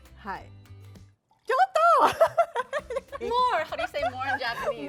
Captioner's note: exclaims in Japanese; laughter; speaking Japanese